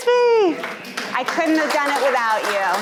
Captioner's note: audience applauding